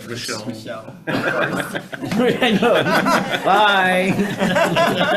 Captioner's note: members chattering